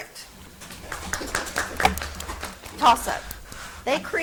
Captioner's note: audience applauds